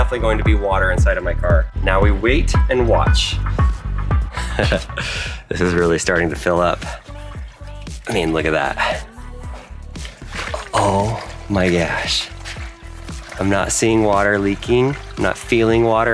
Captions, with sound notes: If this came with a hole inside of it, then there's definitely going to be water inside of my car. Now, we wait and watch. (laughs) This is really starting to fill up. I mean, look at that. Oh, my gosh.